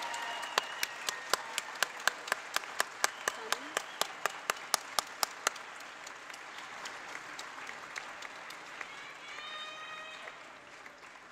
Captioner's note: applause